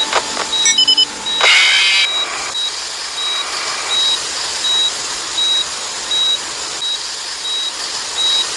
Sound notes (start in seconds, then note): 1.3 distorted scream; 1.3 Static